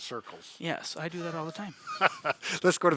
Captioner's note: laughs